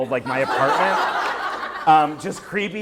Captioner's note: laughter